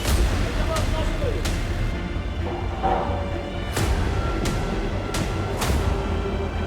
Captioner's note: dramatic music; people chattering